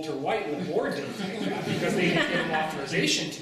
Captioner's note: laughter